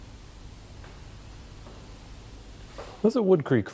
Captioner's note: floor creaks